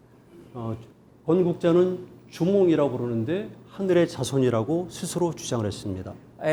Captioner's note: speaking in Korean